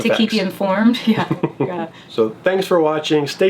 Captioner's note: laughing